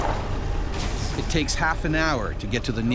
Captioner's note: voiceover